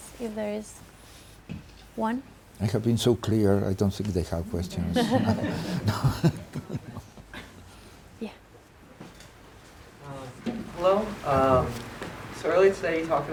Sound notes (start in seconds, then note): 4.6 crowd laughs